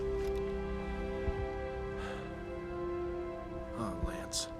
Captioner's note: sighs